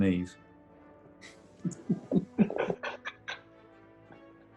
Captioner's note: giggling